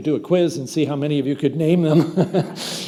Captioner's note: chuckles; audience laughs